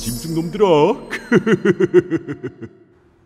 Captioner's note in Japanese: くふふふ…！